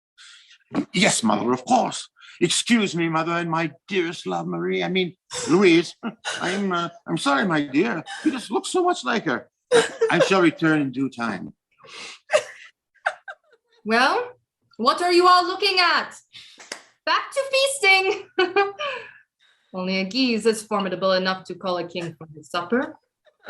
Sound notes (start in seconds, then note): 11.6 HENRI III exits with the SERVANT. QUEEN LOUISE sighs, tears filling her eyes